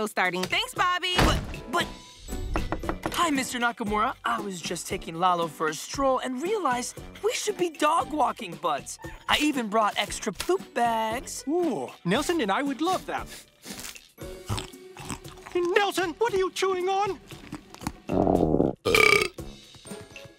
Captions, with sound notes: - Thanks, Bobby. - But, but... Hi, Mr. Nakamura, I was just taking Lalo for a stroll and realized we should be dog walking buds. I even brought extra poop bags. Ooh, Nelson and I would love that. Nelson, what are you chewing on? [growls, burps]